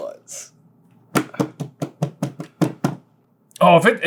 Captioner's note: taps desk aggressively